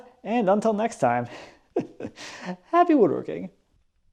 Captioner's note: laughs